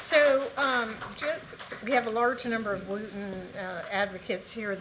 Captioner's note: cheers and applause